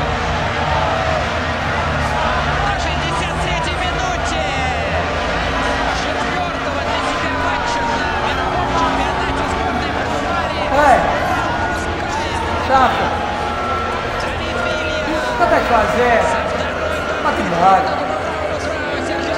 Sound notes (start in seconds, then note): 15.5 speaks in Portuguese